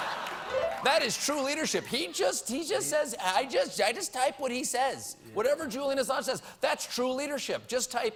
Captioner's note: laughter